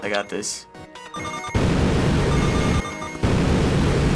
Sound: chiming, beam roaring, chiming; beam roaring

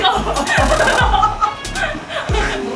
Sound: laughing

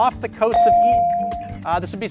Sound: ding

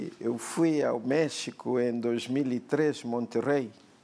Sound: speaking portuguese

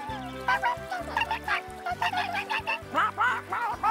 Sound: quacking

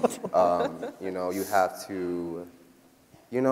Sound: people laughing

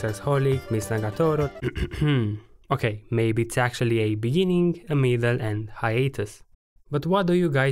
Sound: ahem

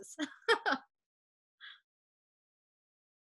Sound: laughing

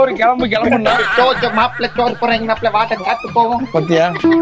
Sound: Imitating Singam Puli Sir's Voice

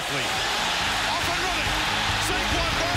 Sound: crowd cheers

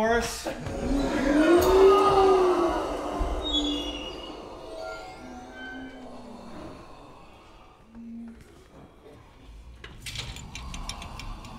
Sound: moaning

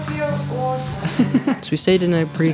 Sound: laughs

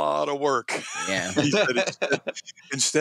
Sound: laughs

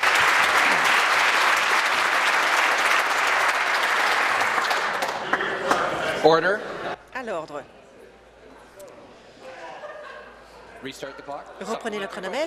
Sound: applause

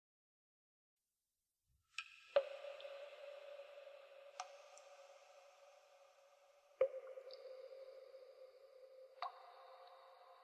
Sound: sound of water dripping

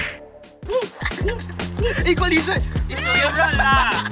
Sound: cheers

